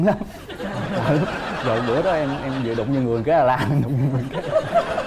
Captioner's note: laughing